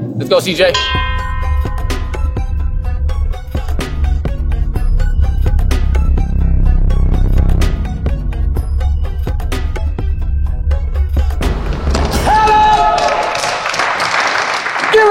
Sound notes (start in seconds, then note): 0.7 ding; 2.3 upbeat music; 11.7 dunk sound; 12.8 applause